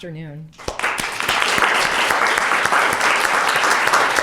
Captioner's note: audience clapping